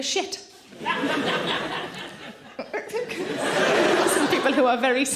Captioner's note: audience laughing